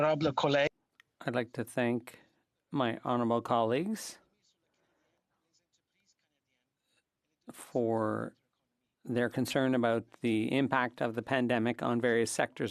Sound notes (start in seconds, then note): 10.6 speaking French